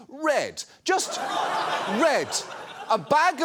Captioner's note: audience laughs